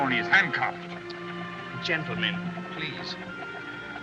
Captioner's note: Peacock Clicks Tongue